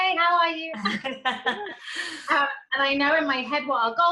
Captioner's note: laughing